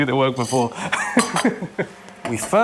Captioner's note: laughs